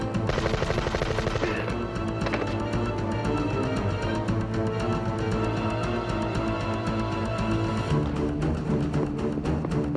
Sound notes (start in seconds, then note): 2.1 groans